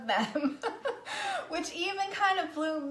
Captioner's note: laughs